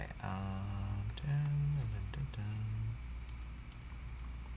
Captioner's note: humming